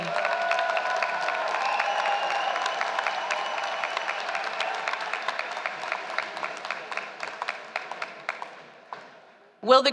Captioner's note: applause